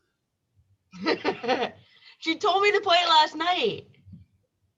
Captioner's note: laughs